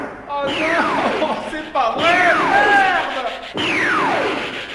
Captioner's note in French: En pleurant